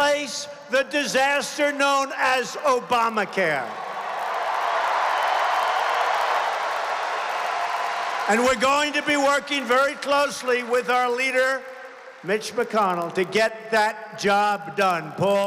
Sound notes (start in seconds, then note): 8.2 applause